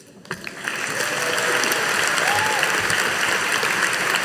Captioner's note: audience applauding